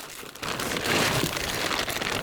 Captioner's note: rustling, crackling